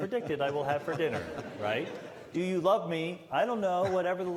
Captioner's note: laughter